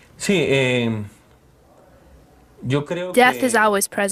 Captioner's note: audio in Spanish